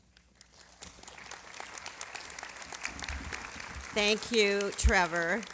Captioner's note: applause